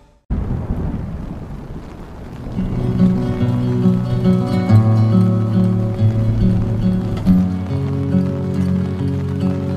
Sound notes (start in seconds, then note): 0.5 thunder rumbling; 2.5 melancholy music